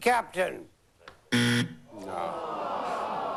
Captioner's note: buzzer